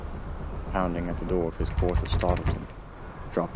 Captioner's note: bang on door